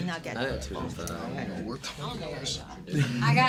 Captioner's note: students murmur